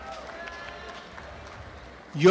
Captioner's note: applause and cheering